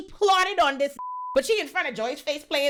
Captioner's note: beep